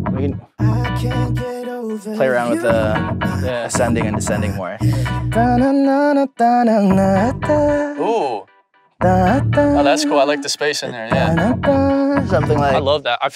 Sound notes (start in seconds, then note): 4.8 humming; 9.0 humming